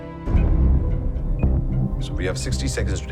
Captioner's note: beeping